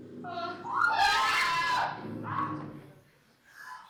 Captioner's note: she dead. Screams